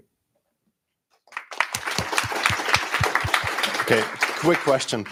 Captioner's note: applause